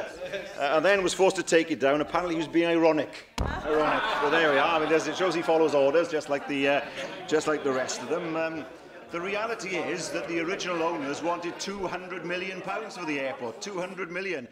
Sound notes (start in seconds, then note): 3.5 laughter